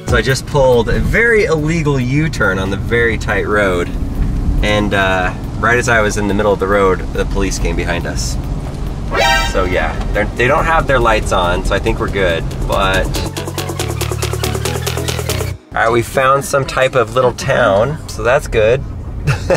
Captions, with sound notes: So I just pulled a very illegal U-turn on the very tight road, and right as I was in the middle of the road, the police came behind us. (dramatic noise) So, yeah, they don't have their lights on, so I think we're good, but... (upbeat music) All right, we found some type of little town, so that's good.